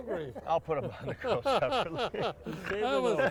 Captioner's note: laughter